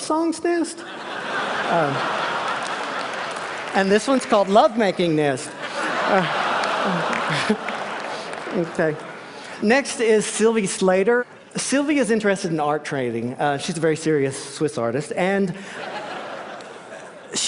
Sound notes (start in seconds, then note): 0.8 laughter; 5.5 laughted; 15.6 laughter